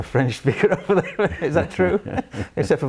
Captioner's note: laughs